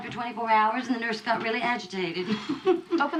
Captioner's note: chuckles